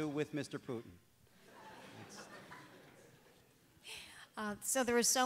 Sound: audience laughs

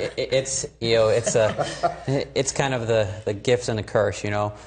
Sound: laughs

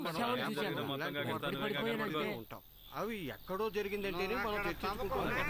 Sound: crowd m uttering

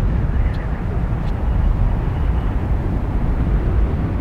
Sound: strong winds blowing

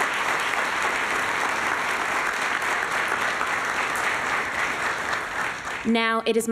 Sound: applause

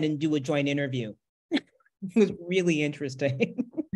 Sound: chuckles

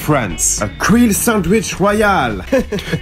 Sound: laughs

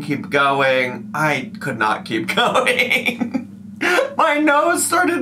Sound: laughs

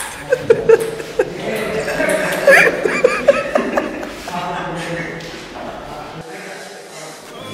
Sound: laughing

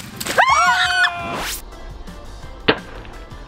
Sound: balloon explodes; screaming

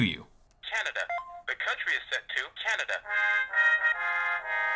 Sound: voiceover

